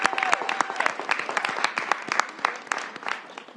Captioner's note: applause